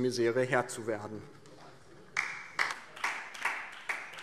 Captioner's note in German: Beifall DIE LINKE